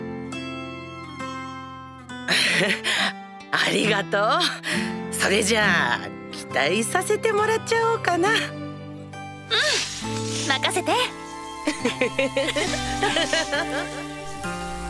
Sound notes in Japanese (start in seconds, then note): 11.6 ソロモンとおかみの笑い声